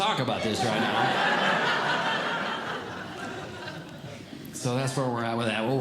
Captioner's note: audience Laughing